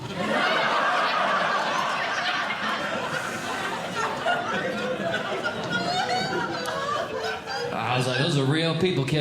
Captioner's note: audience Laughing